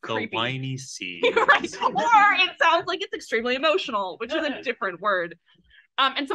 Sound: laughs

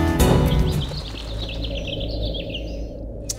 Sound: birds chirping

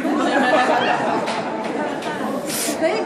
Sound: laughter

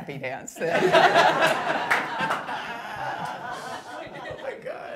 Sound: all laughing

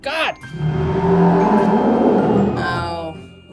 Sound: monster Roar

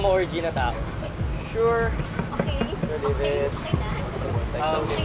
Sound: giggles

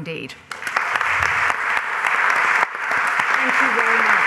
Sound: applause

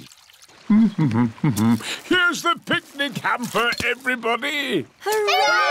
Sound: hums

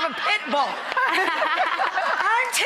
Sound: laughing

